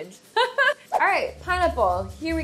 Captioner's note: laughs